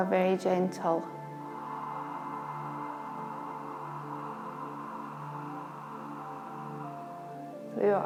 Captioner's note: breathes